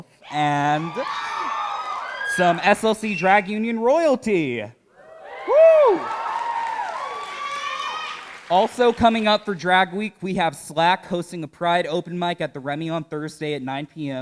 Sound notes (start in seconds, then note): 0.3 cheering; 6.9 cheering and applause